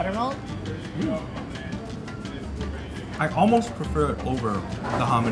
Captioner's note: diners chattering